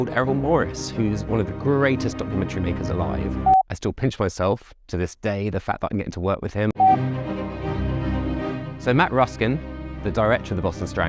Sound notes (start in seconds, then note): 6.8 beep; 6.8 cello music